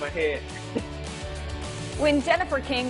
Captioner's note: laughs